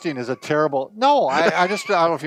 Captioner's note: laughing